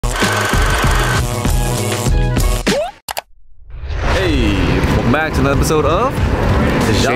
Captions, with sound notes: (projector whirring) (electric buzzing) (click) - Hey, welcome back to another episode of-